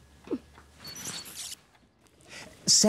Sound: beeping

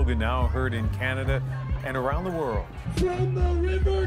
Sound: chanting

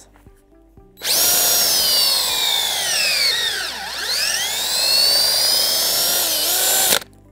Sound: motor whirs

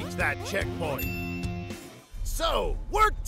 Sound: gas station bell dings

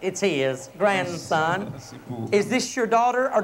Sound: speaking in local tongue

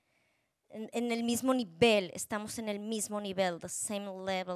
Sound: speaking Spanish

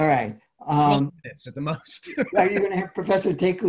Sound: laughs

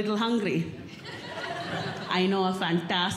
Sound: audience Laughing

